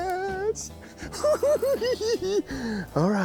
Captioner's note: laughs